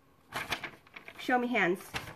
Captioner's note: paper rustling